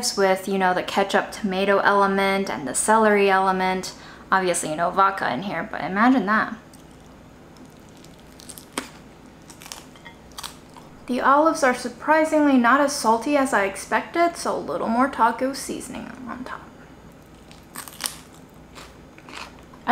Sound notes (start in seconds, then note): 7.4 food crunching; 17.1 food scrunching